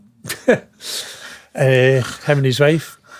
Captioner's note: laughing